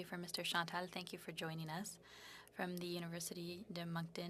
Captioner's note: speaking French